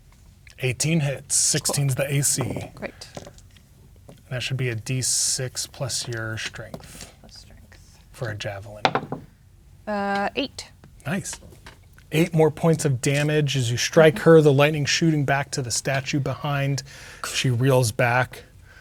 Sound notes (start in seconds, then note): 9.0 dice rolling